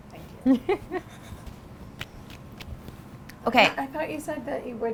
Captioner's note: laughs